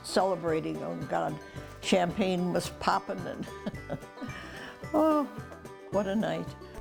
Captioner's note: laughs